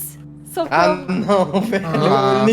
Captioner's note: laughs